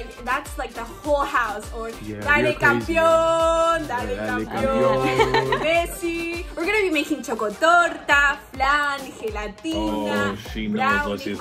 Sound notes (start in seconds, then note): 4.6 laughs